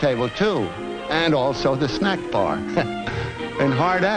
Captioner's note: chuckles